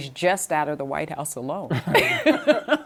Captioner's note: laughter